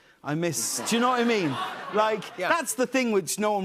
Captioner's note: laughter